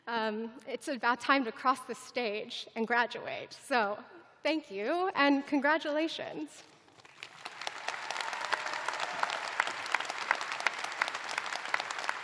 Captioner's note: applause